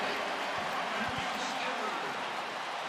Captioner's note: cheers, applause